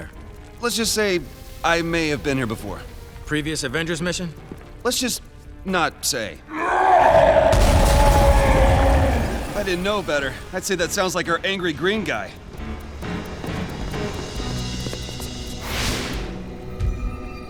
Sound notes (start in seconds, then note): 6.5 growling